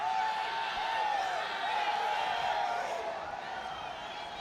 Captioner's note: crowd cheering